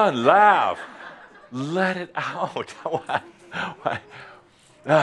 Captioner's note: laughter